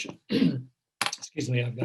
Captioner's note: clears throat